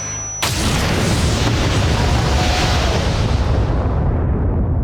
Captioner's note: timer beeps; explosion rumbles